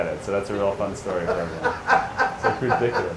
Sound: laughs

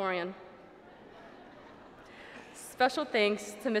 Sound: laughter

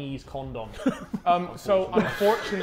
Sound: Sidemen laughing

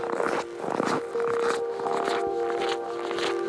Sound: crunching snow

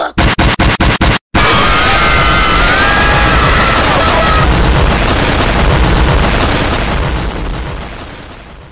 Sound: everyone cheers for the fight and some chant "fight!"; G.K. explodes the school out of intense fury, and everyone screams

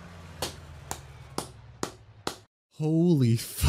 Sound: self applause

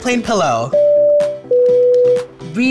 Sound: buzzer beeps

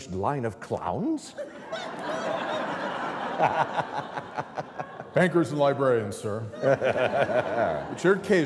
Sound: laughter

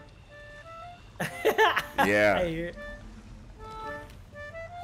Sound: laugh

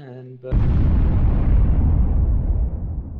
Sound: explosion

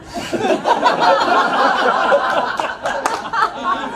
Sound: crowd laughs

